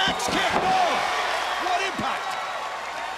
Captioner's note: crowd cheering